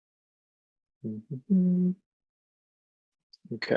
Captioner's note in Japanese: 鼻歌